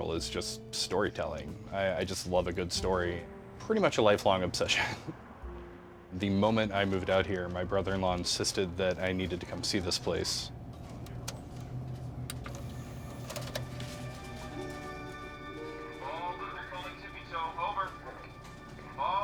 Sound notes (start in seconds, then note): 10.5 DVD machine whirring; 14.7 mysterious music